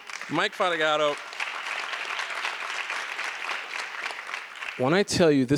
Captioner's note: audience applause